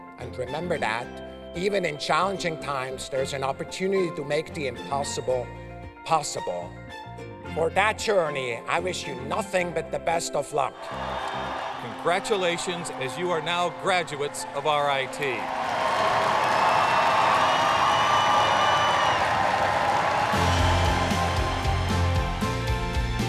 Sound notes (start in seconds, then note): 10.7 cheers and applause; 15.3 loud cheers and applause